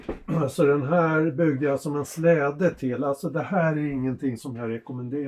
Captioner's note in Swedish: harklar sig